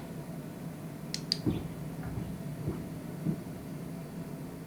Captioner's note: device clicks; footsteps above